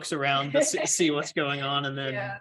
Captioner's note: laughter